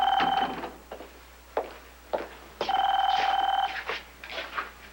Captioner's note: telephone rings